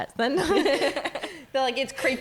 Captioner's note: laughing